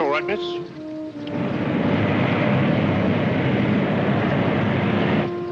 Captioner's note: airplanes roaring